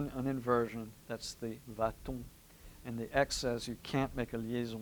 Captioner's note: french